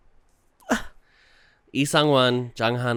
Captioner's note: sobs